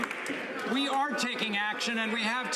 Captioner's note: some Applause